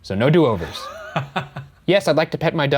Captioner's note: laughs